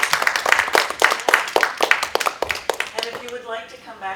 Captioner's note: applause